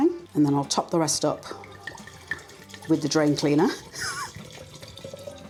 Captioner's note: laugh